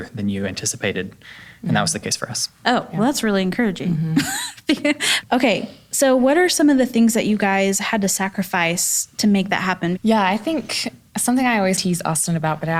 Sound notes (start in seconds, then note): 4.1 laughs